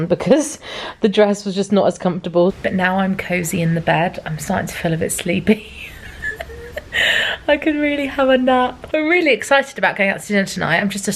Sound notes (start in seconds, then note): 5.6 chuckles